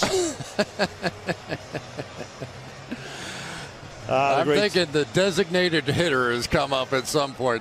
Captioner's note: laughs